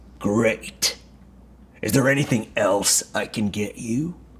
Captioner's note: none